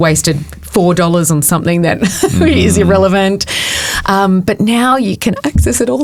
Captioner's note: chuckles